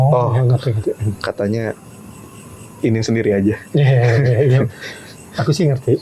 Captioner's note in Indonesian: tertawa